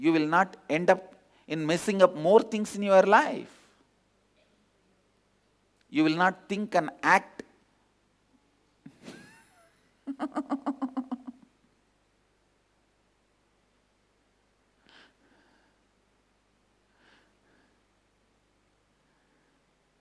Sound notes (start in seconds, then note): 13.5 laughter